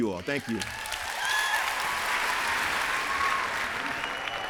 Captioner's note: applause